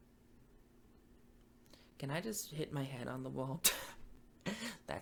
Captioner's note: laughs